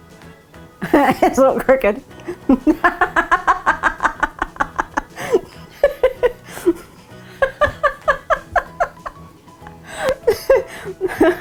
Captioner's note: laughing